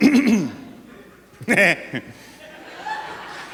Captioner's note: clears throat